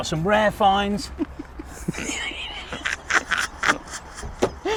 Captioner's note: both laughing